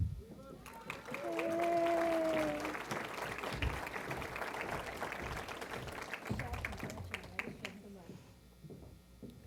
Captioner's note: applause